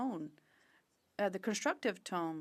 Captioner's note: speaking French